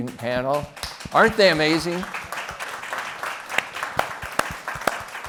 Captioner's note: applause